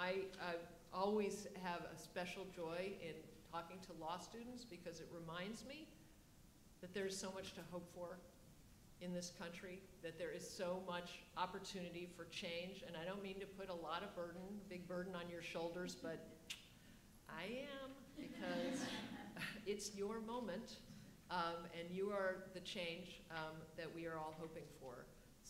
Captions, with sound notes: I always have a special joy in talking to law students because it reminds me that there's so much to hope for in this country, that there is so much opportunity for change. And I don't mean to put a lot of burden, a big burden on your shoulders, but I am (audience laughs) because it's your moment and you are the change that we are all hoping for.